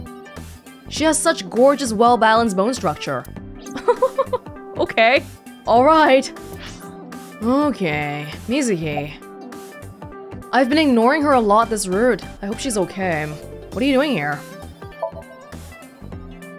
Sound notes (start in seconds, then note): 3.7 chuckles